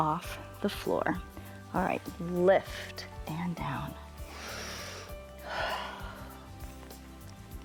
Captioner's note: inhales and exhales